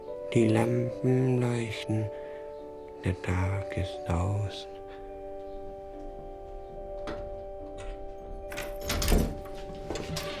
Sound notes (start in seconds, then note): 6.8 key turns in lock